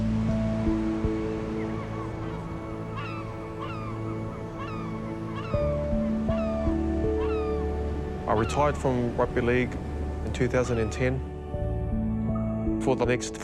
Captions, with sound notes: will send you down the wrong path again. (SOLEMN MUSIC) (BIRDS CALL) I retired from rugby league in 2010.